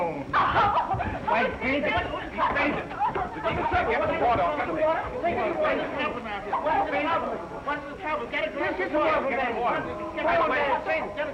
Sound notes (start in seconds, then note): 4.7 all chattering; 4.7 crowd yelling